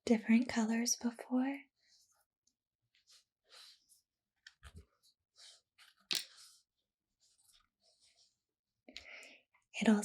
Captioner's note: plastic rubbing sounds